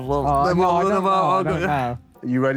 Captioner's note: Sidemen groan